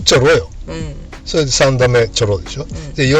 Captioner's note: laughs